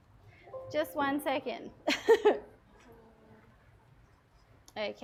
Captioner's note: chuckles